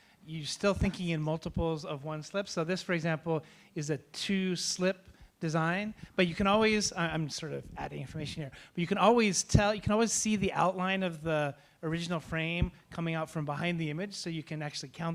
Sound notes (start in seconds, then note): none